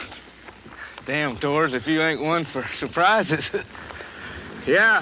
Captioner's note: chuckles